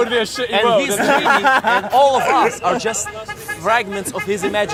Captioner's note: laughs